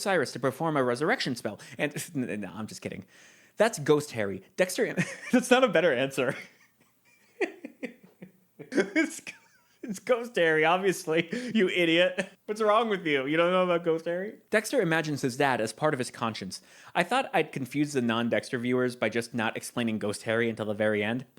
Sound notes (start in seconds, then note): 7.0 laughing